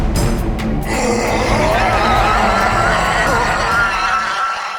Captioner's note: creature shrieking